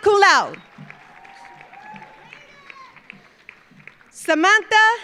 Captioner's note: audience cheering; audience applauding